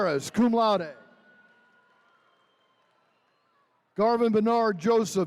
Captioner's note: attendees cheering